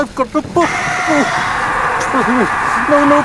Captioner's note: John screams